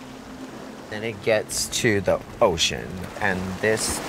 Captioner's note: waves lapping